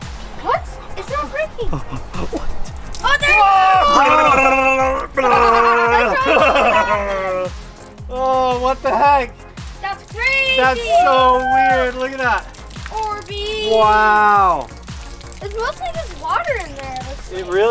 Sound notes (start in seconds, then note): 4.0 rasberrying; 4.7 children cheering